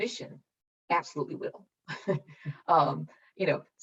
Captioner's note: chuckles